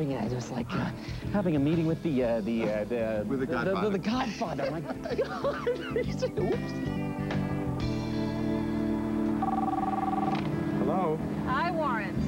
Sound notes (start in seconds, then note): 9.4 phone ringing